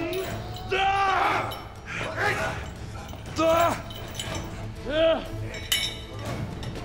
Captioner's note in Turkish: Bağırma sesi